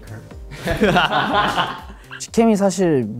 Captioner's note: laughs